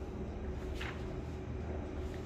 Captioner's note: PET film sound